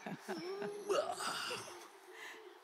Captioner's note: Vikram grunts